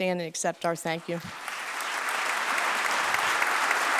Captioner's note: applause